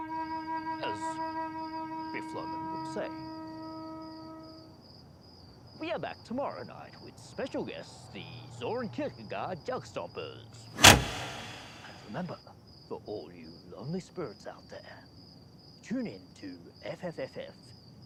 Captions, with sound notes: As Biff Loman would say. We are back tomorrow night with special guest, the Zoran Kiekerga Jugstoppers. (switch clicks) And remember, for all you lonely spirits out there, tune into FFFFFFFM,